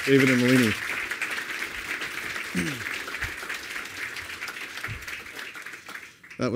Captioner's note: applause